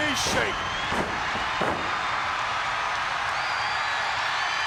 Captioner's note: audience cheers